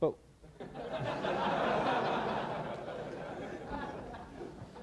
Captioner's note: laughter